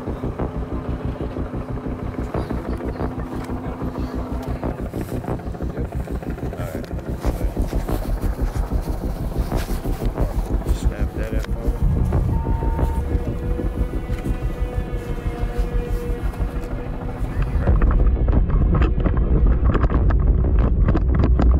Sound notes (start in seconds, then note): 0.2 suspenseful music; 6.2 crew murmurs; 12.2 radio beeps; 17.5 suspenseful music intensifies